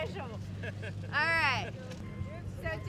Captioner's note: man laughs